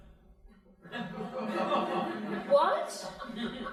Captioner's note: crowd laughing